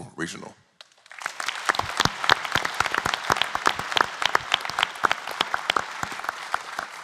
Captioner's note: applause